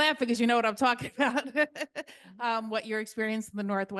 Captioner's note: chuckles